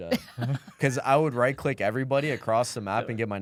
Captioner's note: laughs